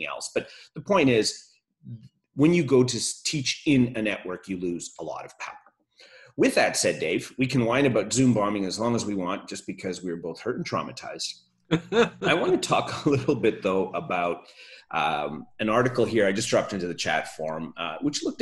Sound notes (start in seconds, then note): 11.7 laughs